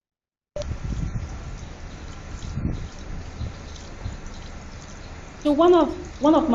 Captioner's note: water splashing